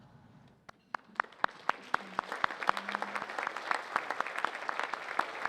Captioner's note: audience applauding